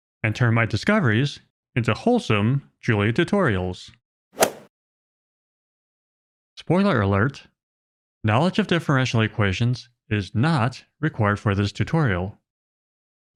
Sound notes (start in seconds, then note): 4.4 golf ball hit sound effect